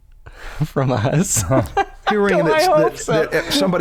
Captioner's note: chuckle